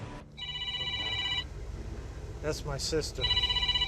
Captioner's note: phone rings